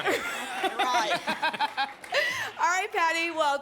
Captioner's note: laughs